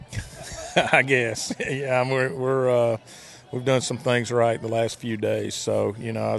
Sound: laughing

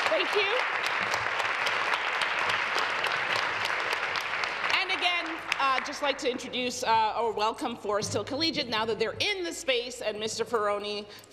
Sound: applause

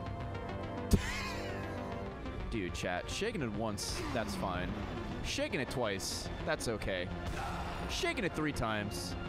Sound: laughs

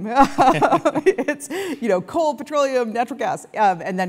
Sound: laugh

